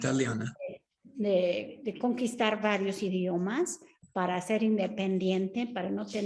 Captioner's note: speaks Spanish; Sandra speaking Spanish